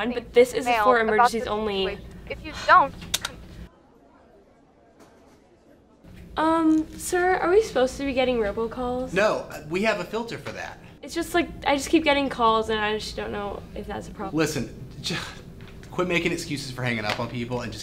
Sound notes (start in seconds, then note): 3.0 phone clicking